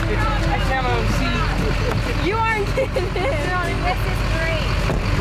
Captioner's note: children chattering